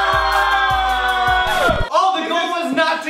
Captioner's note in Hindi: चिल्ला